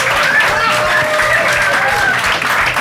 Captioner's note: applause